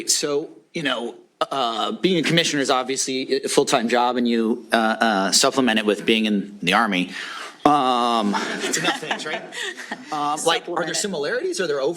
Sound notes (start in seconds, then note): 7.4 laughing